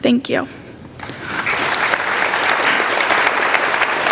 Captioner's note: applauding